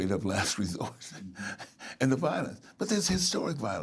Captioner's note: laughing